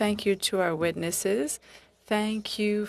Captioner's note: speaking French